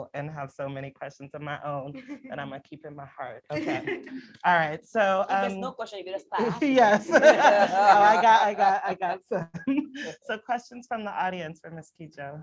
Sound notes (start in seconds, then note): 6.4 laughter